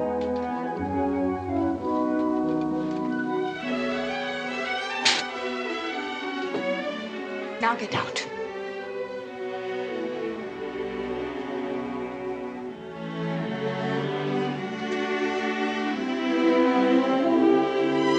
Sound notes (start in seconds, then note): 5.0 hand slaps; 10.5 gentle music